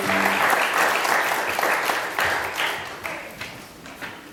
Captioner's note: audience applauds